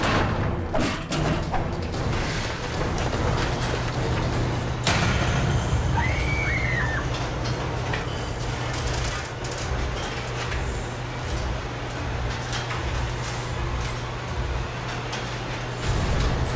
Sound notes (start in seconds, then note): 5.9 Lindsay and Ryder scream; 11.1 suspenseful music